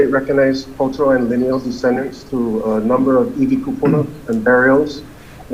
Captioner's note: speaking Hawaiian